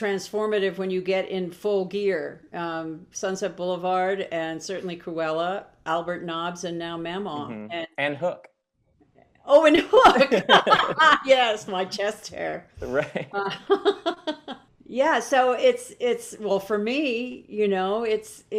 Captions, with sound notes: that it's transformative when you get in full gear, "Sunset Boulevard" and certainly "Cruella" "Albert Nobbs" and now Mamaw and- - And "Hook". - Oh and "Hook" (laughing) Yes, my chest hair. - Right. (Glenn laughs) - Yeah. So, it's. Well, for me, you know,